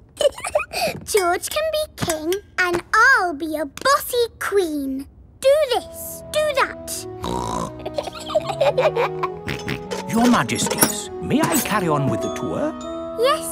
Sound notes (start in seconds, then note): 0.2 giggles; 7.2 snorts; 7.7 both giggle; 9.4 snorts